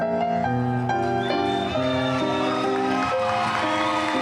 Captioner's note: cheering